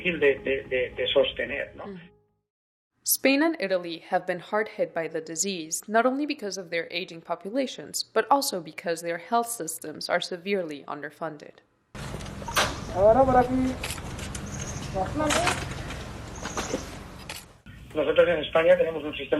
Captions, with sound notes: Spain and Italy have been hard hit by the disease. Not only because of their aging populations, but also because their health systems are severely underfunded. [man speaking a foreign language]